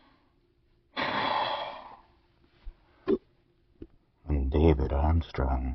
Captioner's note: breathes